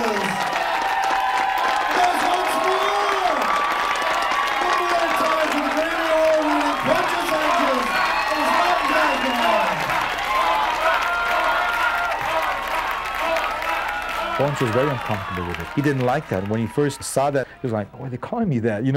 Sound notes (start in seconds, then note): 0.0 music ends, applause; 3.7 applause